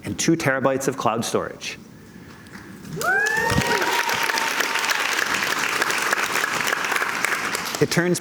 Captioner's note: cheers and Applause